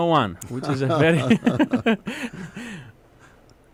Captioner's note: laughter